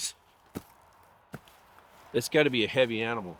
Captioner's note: foot thudding